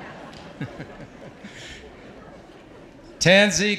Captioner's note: audience laughs; laughing